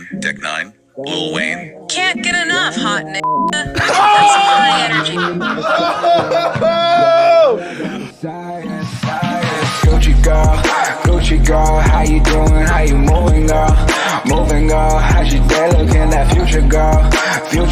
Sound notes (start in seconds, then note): 3.7 both laughing uproariously; 9.8 outro music